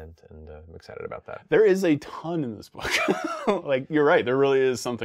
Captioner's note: laughs